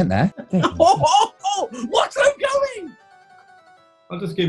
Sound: chortling

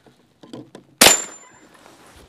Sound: bang

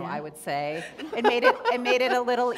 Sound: laughter

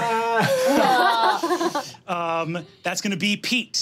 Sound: laughing

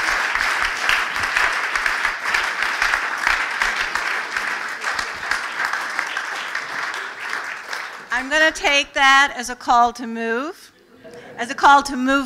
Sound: applause

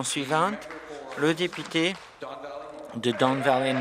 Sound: applause

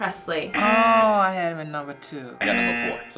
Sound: buzzer

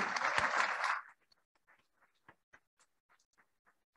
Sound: applauding

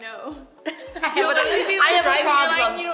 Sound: laughing

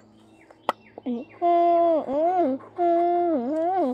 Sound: humming

